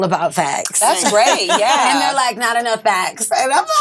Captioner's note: laughs